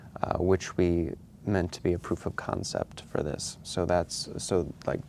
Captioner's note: none